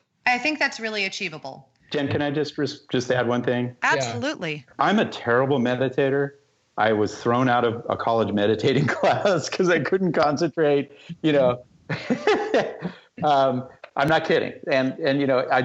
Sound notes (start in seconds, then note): 11.9 laughter